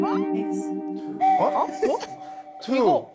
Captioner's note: sound of doubt